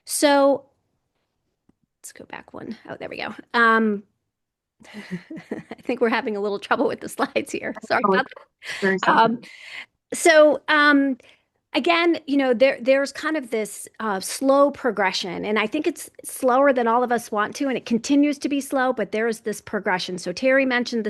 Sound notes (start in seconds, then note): 8.8 chuckles